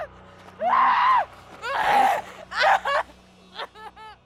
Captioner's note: screaming